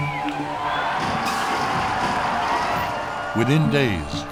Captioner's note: crowd cheering